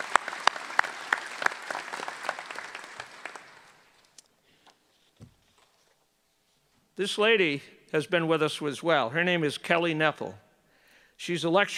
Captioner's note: applause